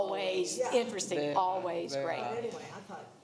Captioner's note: others agreeing